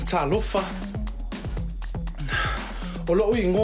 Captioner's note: speaks Samoan